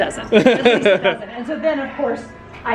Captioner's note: laughing